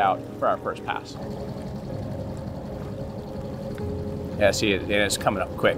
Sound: boat engine revving

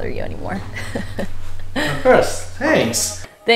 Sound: both laugh

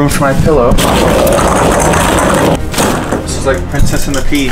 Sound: balls rattles

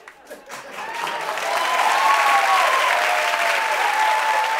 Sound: cheering and applause

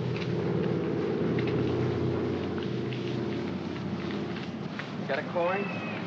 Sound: aircraft rumbles overhead

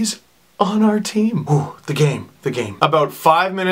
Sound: exhales

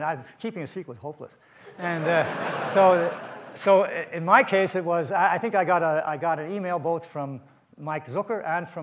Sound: audience laughs

